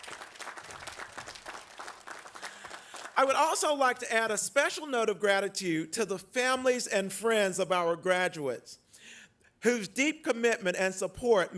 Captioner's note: applause